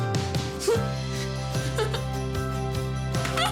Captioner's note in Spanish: Risas